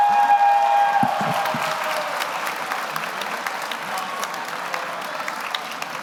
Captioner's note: audience cheers; audience applauds